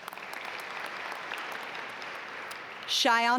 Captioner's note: audience applaud